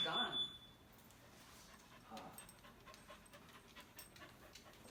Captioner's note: dog panting